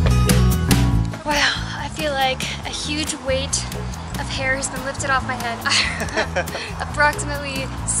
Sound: laughter

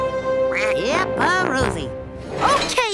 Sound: quacking

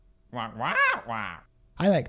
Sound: squawking

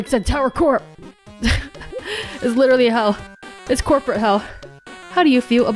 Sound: chuckles

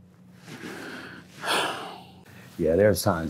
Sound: breathing heavily

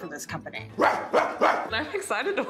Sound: man barking

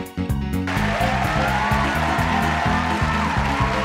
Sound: roaring applause

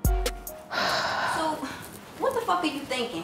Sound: sighs

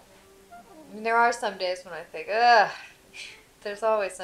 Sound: voiceover

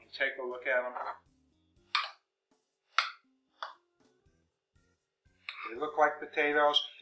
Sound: scrapping sounds

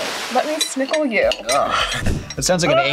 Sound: laughs

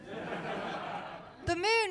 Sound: laughter

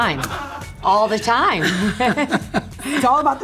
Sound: Luann laughing

